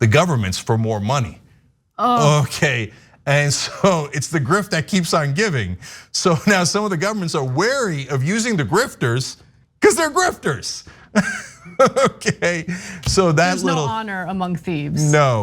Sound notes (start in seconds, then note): 11.1 laugh